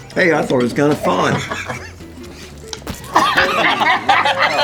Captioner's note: laughing